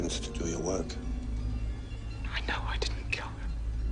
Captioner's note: whispering